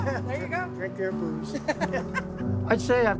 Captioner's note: laughter